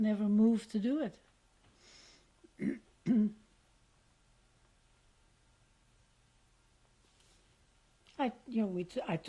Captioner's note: pauses for 7 seconds